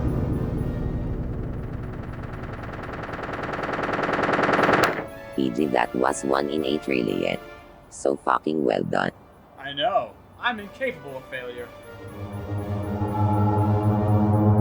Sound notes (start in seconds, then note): 0.0 spaceships crashing into each other; 1.3 wings flapping